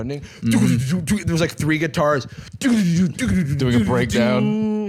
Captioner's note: mimicking drums